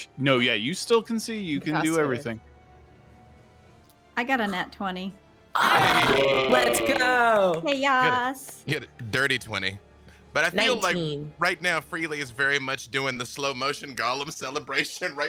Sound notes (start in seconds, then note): 5.6 people cheering